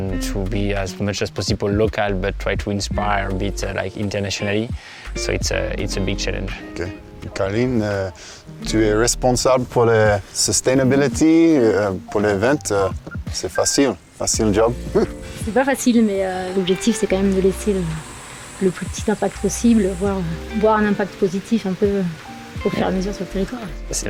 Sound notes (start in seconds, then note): 7.3 in Franglais